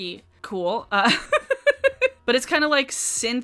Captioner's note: laughs